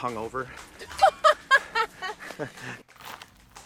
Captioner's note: laughing